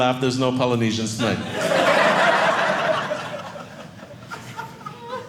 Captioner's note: audience laughing